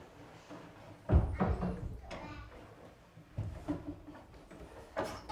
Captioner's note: cabinet thudding